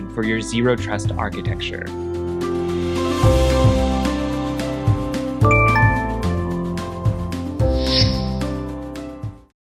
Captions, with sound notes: for your zero trust architecture. (gentle music) (device dings)